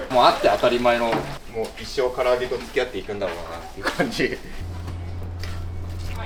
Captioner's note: laugh